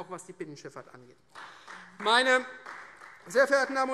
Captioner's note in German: Beifall Freie Demokraten